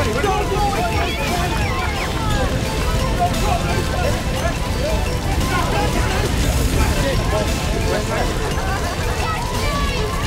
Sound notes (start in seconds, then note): 0.4 whistles and cheering